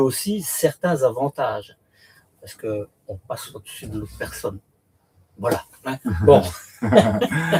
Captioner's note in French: rires